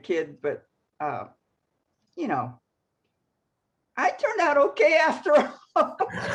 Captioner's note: laughs